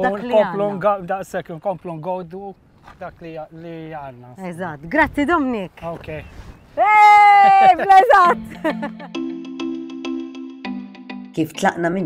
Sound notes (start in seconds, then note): 6.8 yells with enjoyment; 8.0 uplifting music